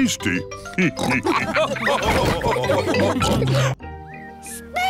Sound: all laugh

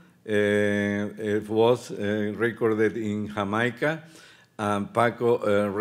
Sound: speaking Spanish

